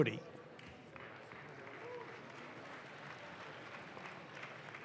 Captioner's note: audience claps